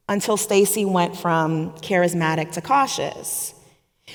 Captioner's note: none